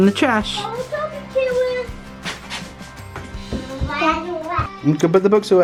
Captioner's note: children babbling